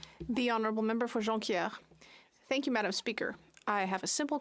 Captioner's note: speaking French